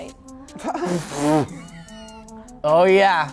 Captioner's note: laughter